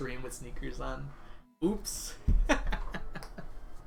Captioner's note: laughs